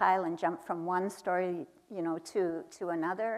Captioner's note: none